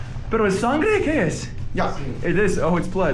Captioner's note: speaker speaking in foreign language